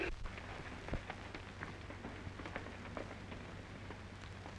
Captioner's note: hooves trotting